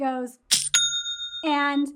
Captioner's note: cash register dings